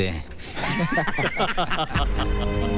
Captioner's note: Laughs